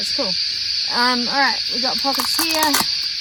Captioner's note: velcro tears loudly